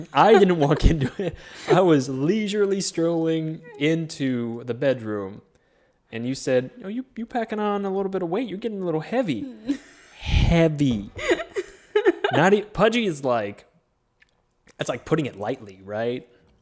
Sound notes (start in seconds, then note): 11.1 chuckles; 11.1 laughs